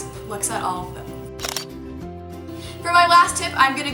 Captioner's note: shutter sound